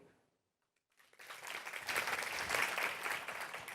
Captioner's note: applause